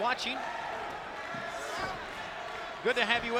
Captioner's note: spectators cheering